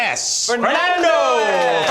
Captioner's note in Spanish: aplausos